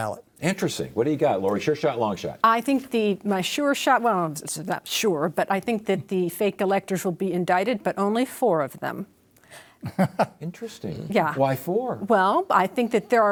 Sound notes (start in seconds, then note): 9.8 chuckles